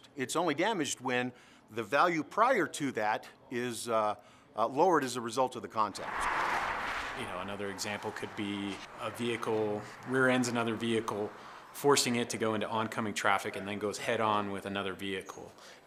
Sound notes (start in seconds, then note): 5.9 sounds of vehicles driving on road